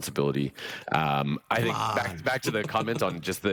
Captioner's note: chuckles